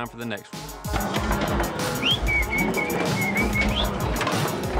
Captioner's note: whistling